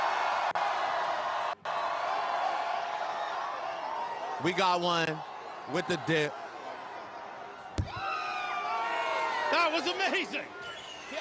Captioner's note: cheering and Applause